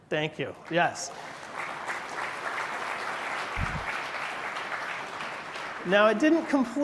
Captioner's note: applause